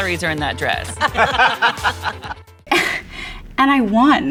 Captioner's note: laughs